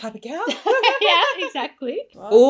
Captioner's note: laughs